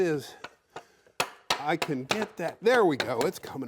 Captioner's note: hammer hitting